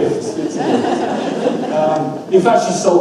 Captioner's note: audience laughs